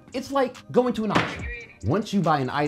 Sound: gavel hits table

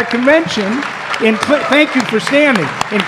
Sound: applause

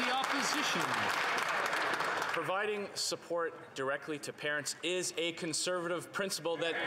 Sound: some Applause

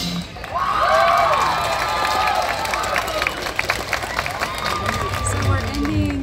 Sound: crowd cheers and applause

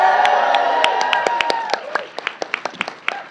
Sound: applause

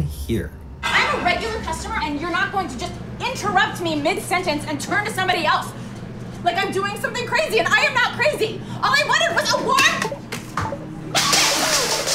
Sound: arguing loudly

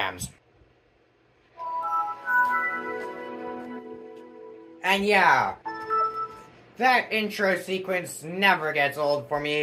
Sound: Windows Vista startup sound

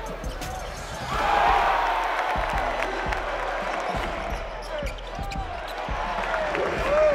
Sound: crowd cheering

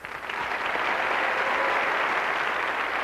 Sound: cheers

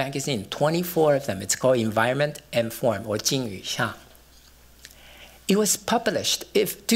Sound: non-english

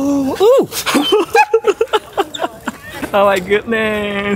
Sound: laughs

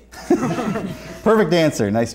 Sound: laughter

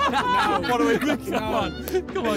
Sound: laughing

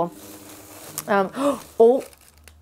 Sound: gasps

